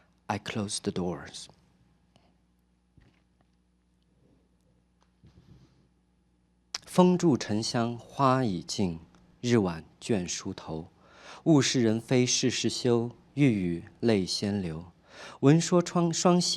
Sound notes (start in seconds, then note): 6.8 speaking chinese